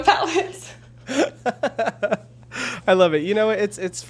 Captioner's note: chuckles